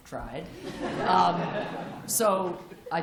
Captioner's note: laughter